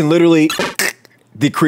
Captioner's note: fart noise